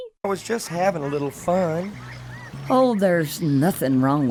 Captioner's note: none